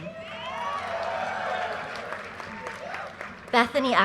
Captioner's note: audience cheers and applause